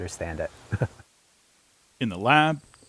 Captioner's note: chuckles